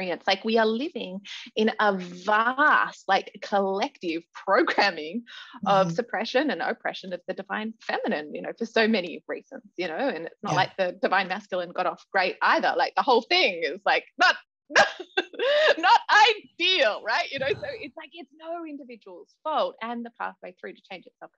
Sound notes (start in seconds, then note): 15.0 laughs